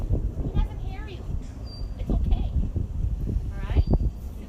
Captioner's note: wind